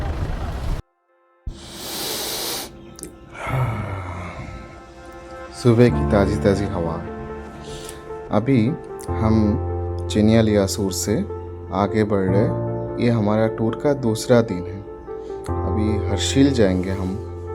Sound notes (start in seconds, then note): 3.1 inhaling